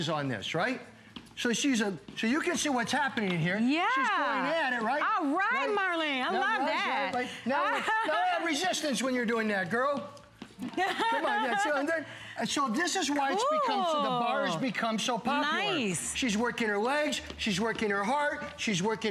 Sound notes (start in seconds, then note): 7.6 laughter; 10.6 laughter